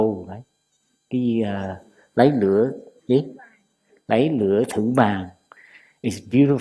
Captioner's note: Vietnamese